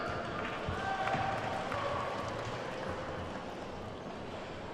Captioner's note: attendees clapping